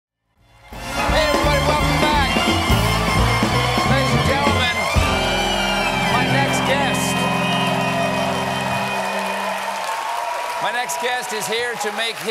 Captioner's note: cheers and applause